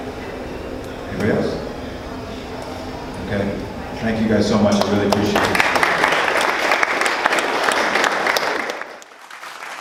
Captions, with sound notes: Anybody else? Okay, thank you guys so much I really appreciate it. (applause)